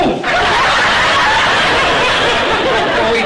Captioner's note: audience laughter